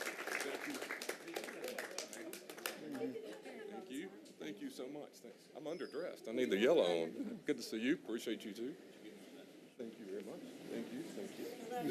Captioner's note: applause